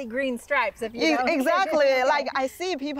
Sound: laughing

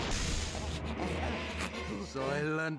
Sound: both panting

